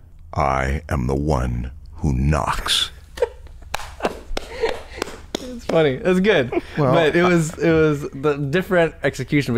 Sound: laughter

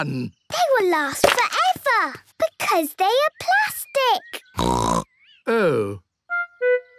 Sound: snorting

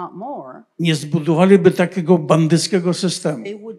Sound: foreign language

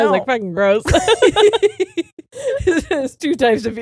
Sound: both laughing

